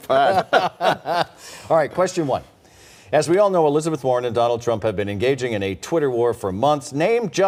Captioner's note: laughter